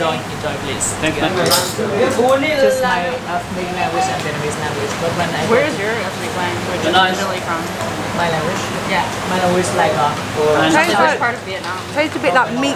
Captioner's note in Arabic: الثرثرة الخلفية